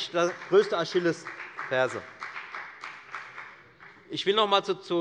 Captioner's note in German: Beifall bei der FDP